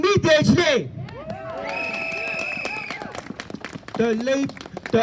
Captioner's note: cheers &shouts of yes